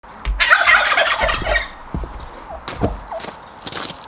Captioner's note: sound of turkeys calling